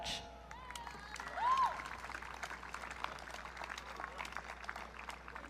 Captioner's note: audience cheering